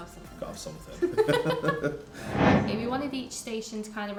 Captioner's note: laughs